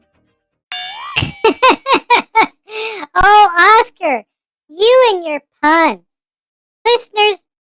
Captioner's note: laughing